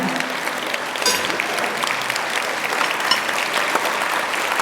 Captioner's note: audience applauds